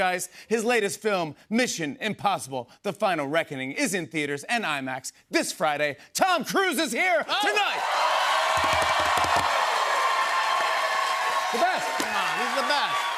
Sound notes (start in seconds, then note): 7.3 cheers and applause